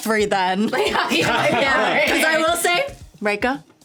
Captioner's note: laughing